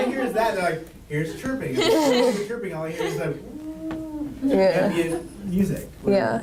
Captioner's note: laughter